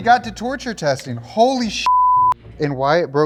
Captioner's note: beep